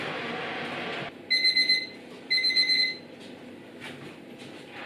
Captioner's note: timer beeping